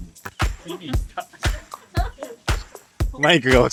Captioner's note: laughs